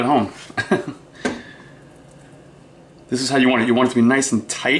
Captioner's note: chuckles